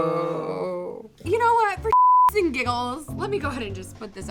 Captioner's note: beeping noise